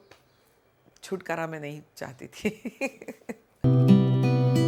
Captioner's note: chuckles